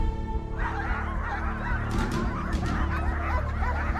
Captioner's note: dogs barking